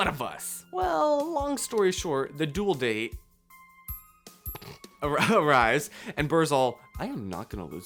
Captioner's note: hehehe